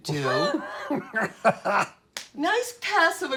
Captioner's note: laughing loudly